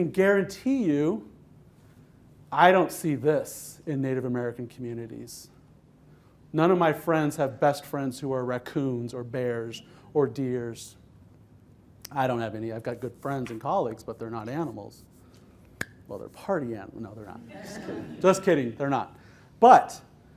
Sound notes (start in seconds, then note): 17.5 laughter